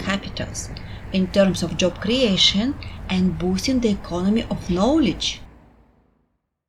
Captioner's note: highway noise; highway noise ends